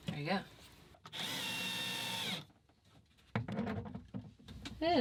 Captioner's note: whirring